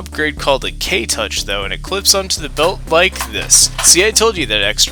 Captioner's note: click clack noises